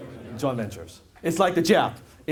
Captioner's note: audience Members In Unison